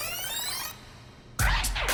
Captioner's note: tape rewind